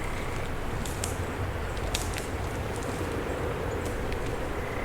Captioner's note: twigs snapping